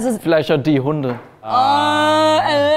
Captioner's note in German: none